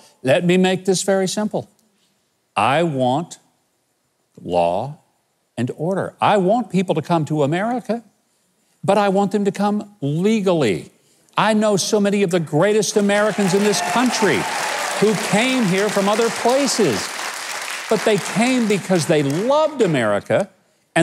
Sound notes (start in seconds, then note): 14.1 audience applauding